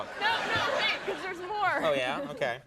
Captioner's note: crowd laughs